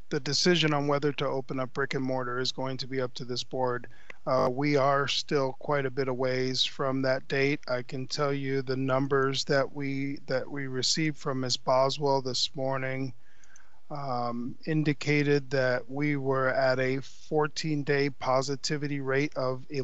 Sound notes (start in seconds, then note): none